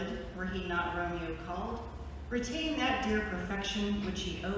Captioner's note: none